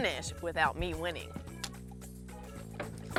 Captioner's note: clicks tongue